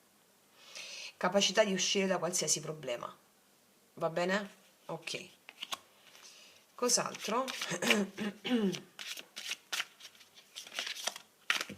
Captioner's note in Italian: schiarire la voce